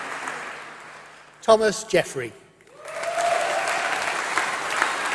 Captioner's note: applause